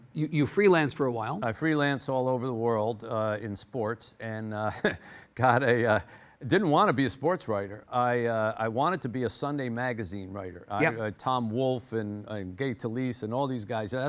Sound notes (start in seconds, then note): 4.6 laughs